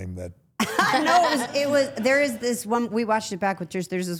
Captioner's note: everyone laughs